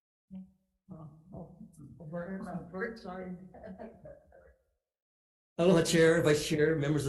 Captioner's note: committee laughing